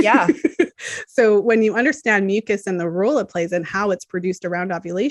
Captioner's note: laughs